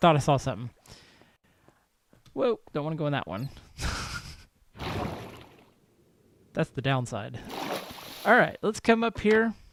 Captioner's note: laughs